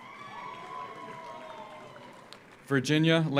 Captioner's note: audience cheers; audience applauds